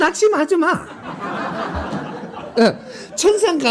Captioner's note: laughter